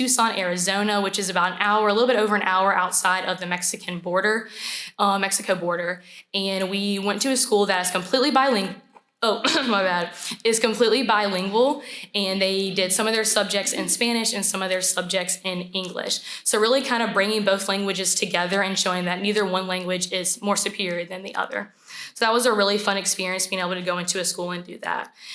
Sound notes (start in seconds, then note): 9.4 coughs